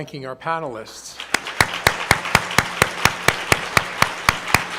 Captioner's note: group applauding